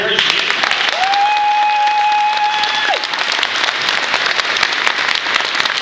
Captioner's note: applause